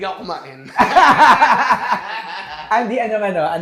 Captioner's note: both laugh